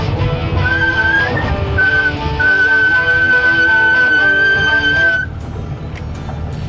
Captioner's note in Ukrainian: різкий свистячий звук гальма